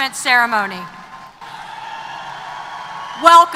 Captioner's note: applause & Cheers